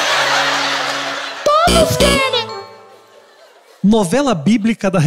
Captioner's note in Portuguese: campainha